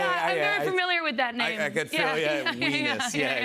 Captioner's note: laughs